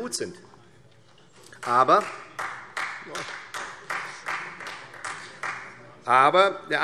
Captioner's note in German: Beifall Freie Demokraten